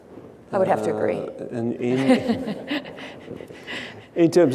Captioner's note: laughs